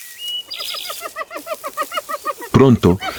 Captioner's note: laughs